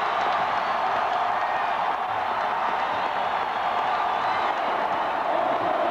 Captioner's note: cheering